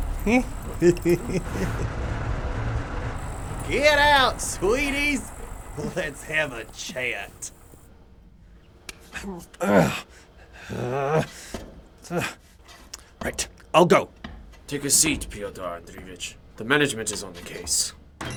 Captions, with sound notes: (guffawing) - Get out, sweeties! Let's have a chat. (growls) - Right, I'll go. - Take a seat, Pyotr Andreevich. The management is on the case.